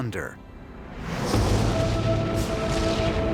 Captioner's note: lightning crashes